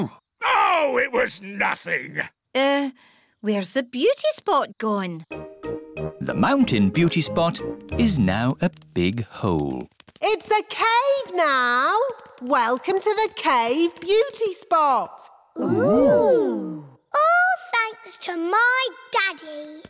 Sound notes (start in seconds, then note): 10.0 echoing